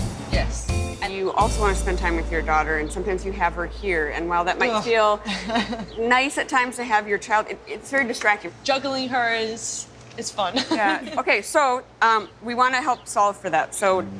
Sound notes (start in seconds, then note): 5.1 groaning and laughing; 10.5 laughs